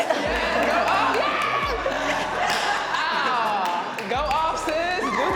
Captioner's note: everyone chatting and laughing